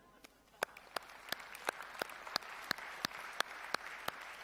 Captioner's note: applause